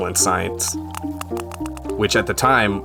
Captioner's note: gentle music; whale clicking